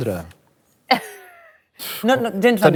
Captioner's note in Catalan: ríe